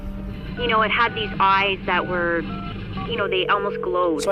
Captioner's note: number pad clicking